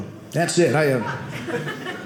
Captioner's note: audience laughing